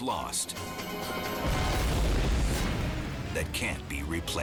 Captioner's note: explosion booming